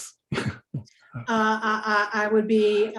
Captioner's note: chuckles